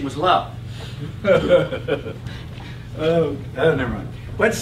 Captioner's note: laugh